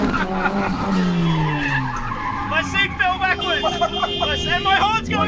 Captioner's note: both laughing